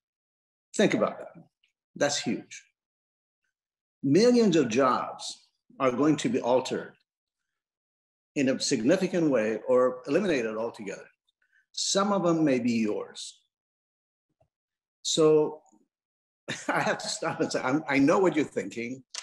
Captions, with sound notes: Think about that. That's huge. Millions of jobs are going to be altered in a significant way or eliminate it altogether. Some of them may be yours. So, (laughs) I have to stop say, I know what you're thinking.